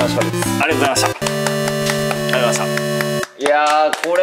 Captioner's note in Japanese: 拍手👏